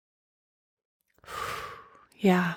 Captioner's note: exhaling